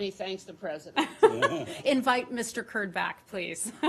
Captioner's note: laughter